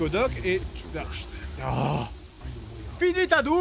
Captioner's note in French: Bruit de pluie